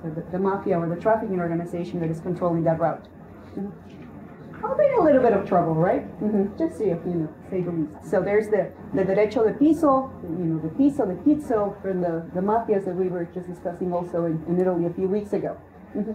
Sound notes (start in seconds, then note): 8.8 Spanish